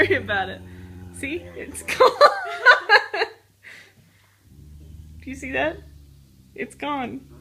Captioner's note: laugh